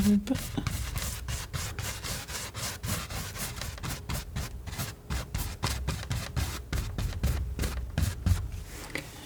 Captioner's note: scratching